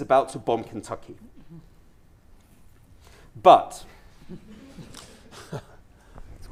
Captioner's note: long pause